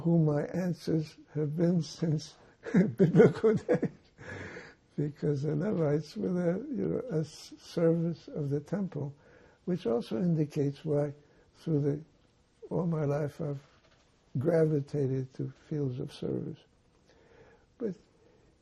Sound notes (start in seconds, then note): 2.6 laughing